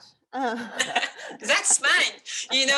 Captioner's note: both laughs